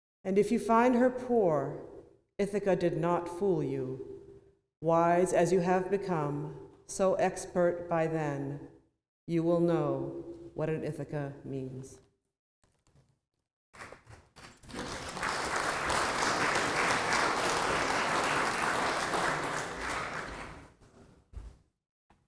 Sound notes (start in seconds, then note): 14.5 applause